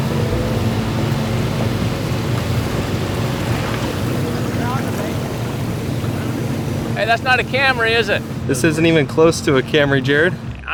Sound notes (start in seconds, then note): 3.2 water trickling